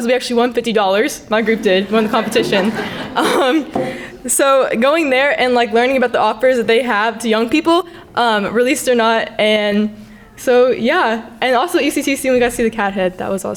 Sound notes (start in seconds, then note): 2.9 crowd laughing